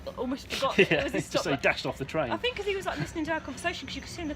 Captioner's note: laughing